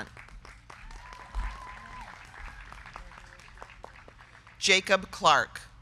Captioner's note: crowd clapping; crowd cheering